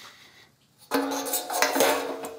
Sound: clanking

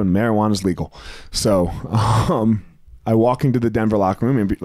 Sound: chuckles

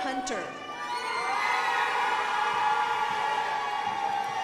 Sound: crowd applauding

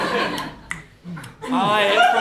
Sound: tongue clicking

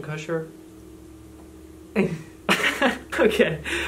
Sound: both laughing

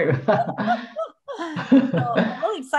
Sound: laughing

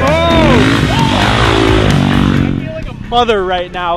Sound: engine revving

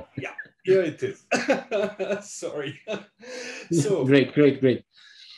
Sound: laughs

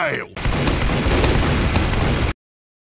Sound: gunfire/explosions sounds

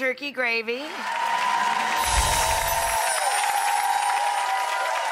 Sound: audience cheering; bells chiming; audience cheering

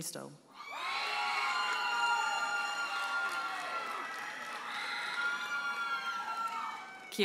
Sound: audience members holler and applaud

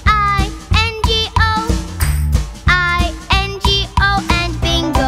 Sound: clap

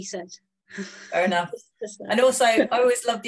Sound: laughs

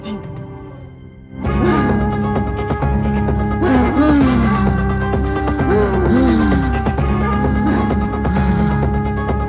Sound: grunting

